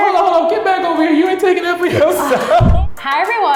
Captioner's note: laughs